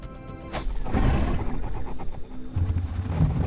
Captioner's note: growling